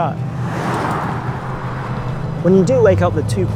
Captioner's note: vehicle revs